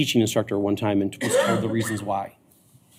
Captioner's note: coughing